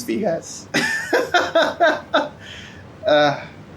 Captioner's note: laughs